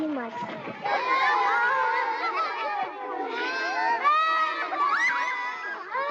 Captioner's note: happy Children's Voices